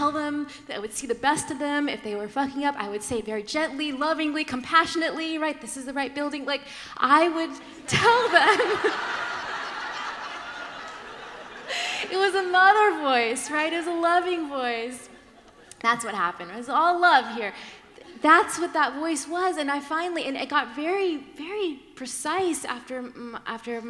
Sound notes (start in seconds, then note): 8.2 laughter